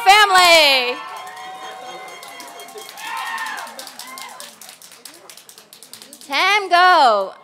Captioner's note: applause and cheers